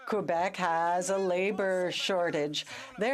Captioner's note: speaking French